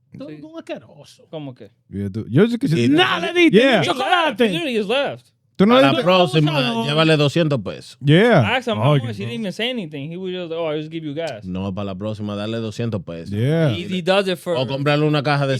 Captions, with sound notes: (Speaking In Foreign Language) Yeah. I asked him for more, he didn't even say anything. He was like, "Oh, I'll just give you gas." (Speaking In Foreign Language) He does it for-- (Speaking In Foreign Language)